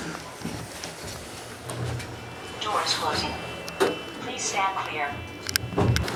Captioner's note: elevator